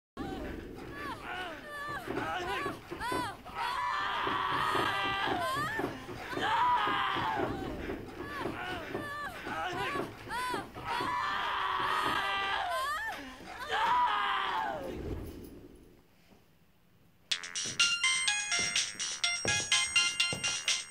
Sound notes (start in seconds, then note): 0.7 screams and grunts; 0.8 woman moans; 17.3 phone rings